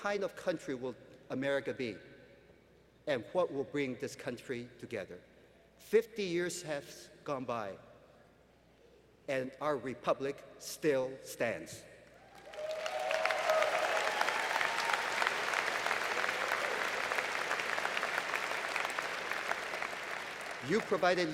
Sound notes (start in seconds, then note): 13.9 applause